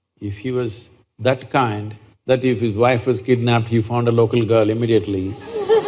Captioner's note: laughter